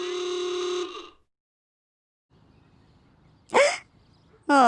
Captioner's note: horn beeping